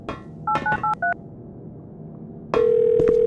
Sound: 911 getting called

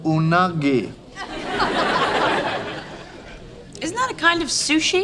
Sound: audience laughing

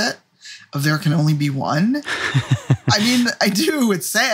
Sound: laughs

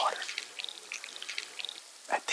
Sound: broth pours, sizzles

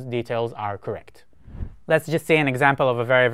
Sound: screen whooshing

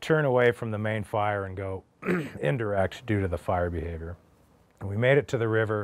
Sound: clears throat

